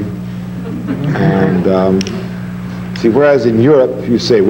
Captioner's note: audience laughing